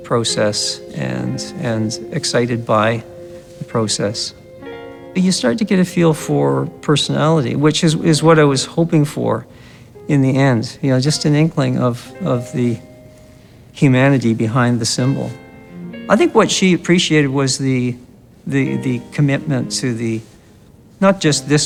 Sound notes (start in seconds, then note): none